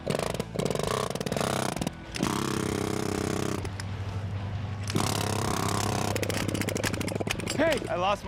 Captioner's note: drilling